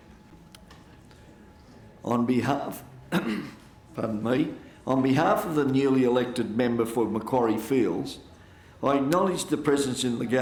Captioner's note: coughs